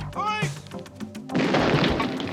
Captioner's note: gunshots